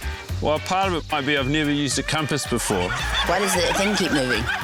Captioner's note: laughter